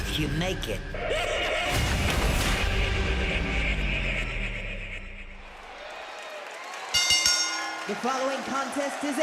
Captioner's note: laughs; bell rings